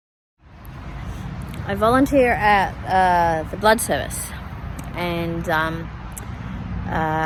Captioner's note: traffic noise